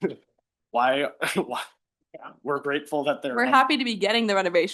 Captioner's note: chuckles